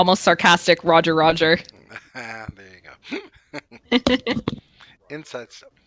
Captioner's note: laughter